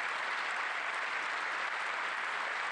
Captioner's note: applause